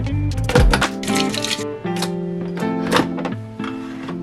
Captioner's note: clattering sounds